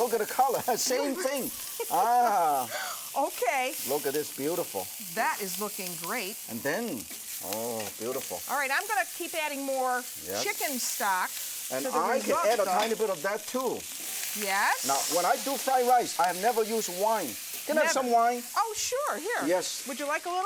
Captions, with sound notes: Same thing. [Laughter] Ahhh. Okay. Look at this, it's beautiful. That is looking great. And then, oooo, beautiful. All right, and I'm going to keep adding more chicken stock to mine. And I can add a tiny bit of that too. When I do fried rice, I never use wine. Can I have some wine? Oh sure. Here. Yes. Would you like a little?